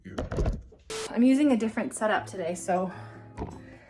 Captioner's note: distorted voice; normal voice